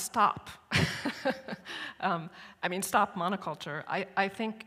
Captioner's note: chuckles